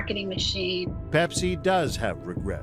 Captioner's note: soundbite of archived recording